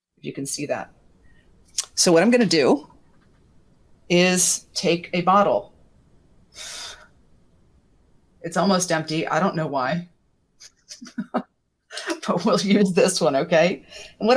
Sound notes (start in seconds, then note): 10.7 laughs